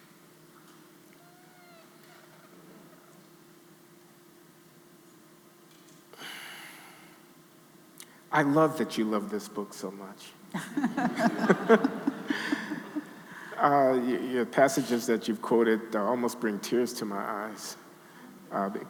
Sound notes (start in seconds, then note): 10.5 laughing; 10.5 audience laughing